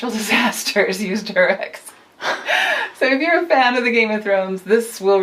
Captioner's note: laughs